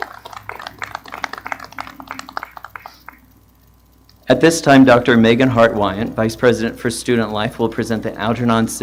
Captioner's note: applause; appaluse